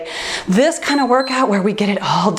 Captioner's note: timer beeps